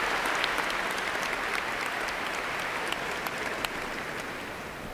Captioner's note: cheers and applause